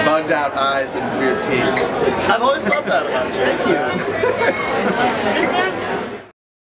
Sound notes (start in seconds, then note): 3.5 laughing